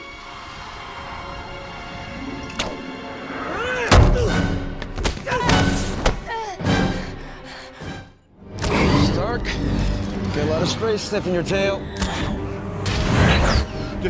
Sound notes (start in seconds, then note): 3.8 yelling; 4.7 dramatic music; 11.9 dramatic music